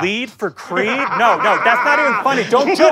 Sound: maniacal laughter

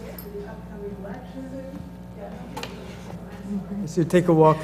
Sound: laugh

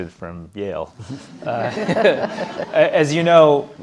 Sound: audience laughing

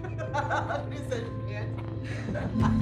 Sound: laughing

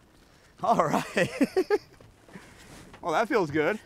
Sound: laughs

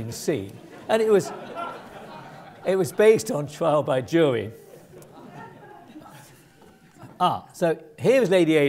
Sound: laugh

